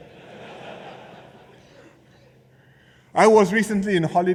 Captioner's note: laughter